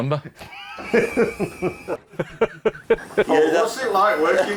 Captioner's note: they laugh